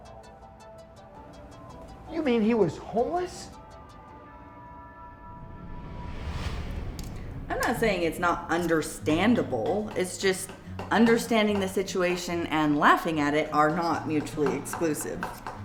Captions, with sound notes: (tense synth music) - You mean he was homeless? (thud echoes) - I'm not saying it's not understandable, it's just understanding the situation and laughing at it are not mutually exclusive.